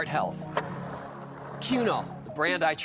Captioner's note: skateboard wheels roaring